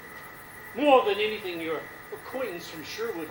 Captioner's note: none